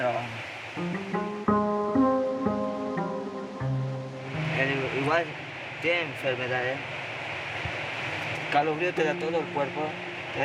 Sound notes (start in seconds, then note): 0.6 pensive music; 5.2 teenager speaking in foreign language